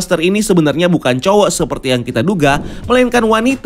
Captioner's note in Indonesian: suara transisi